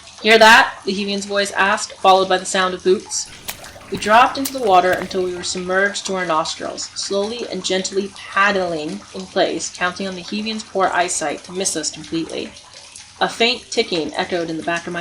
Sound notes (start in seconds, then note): 3.2 boots walking and dropping into the water